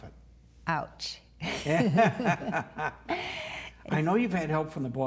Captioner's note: both laugh